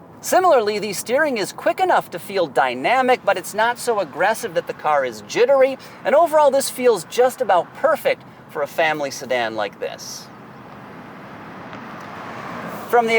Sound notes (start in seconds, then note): 11.7 car passing